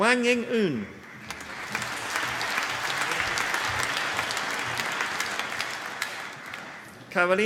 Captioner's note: applause